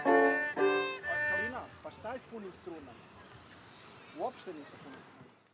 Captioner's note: speaking Serbian